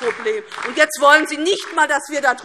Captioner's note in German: Beifall DIE LINKE